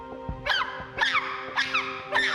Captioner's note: shrieking